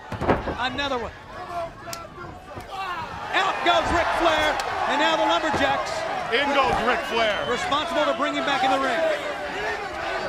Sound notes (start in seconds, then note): 5.5 crowd cheering